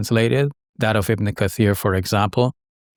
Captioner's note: speaking in foreign language